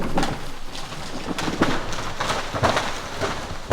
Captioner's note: trees rumble